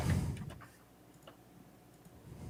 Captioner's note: bubbling